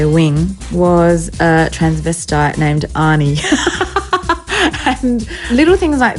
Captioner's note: laughs